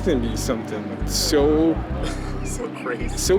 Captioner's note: chuckling